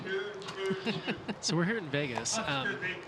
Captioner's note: laughing